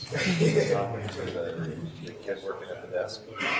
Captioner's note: laughing